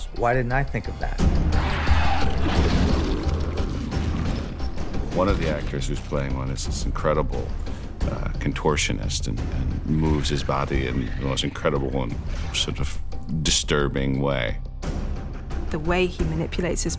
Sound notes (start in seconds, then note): 1.6 snarling